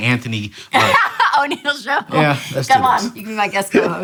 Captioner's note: laughs